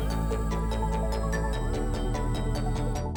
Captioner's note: drone propellers stop